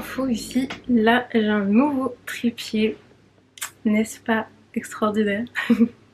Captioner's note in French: rires